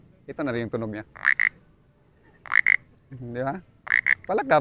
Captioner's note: mimics frog croaking